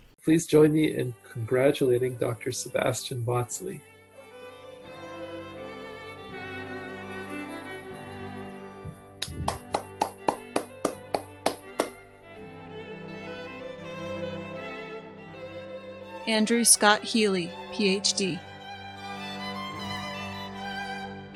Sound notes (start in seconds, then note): 5.7 uplifting chamber music; 9.2 applauding